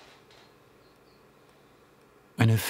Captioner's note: none